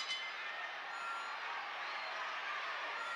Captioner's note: bell rings